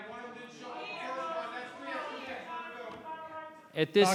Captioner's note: public interjecting